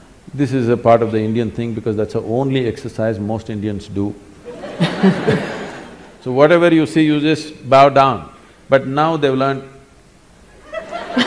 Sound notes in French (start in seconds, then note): 4.5 Rire; 10.8 rire